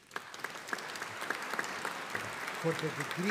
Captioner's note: audience applauding